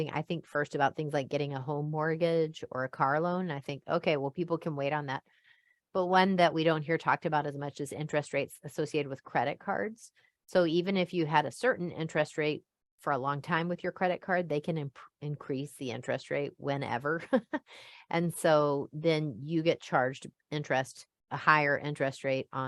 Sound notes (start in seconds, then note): 17.1 chuckles